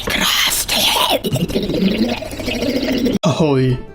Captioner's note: silly noises